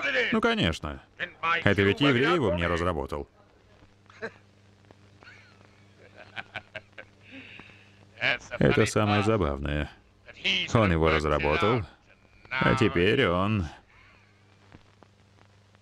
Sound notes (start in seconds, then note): 5.2 laughing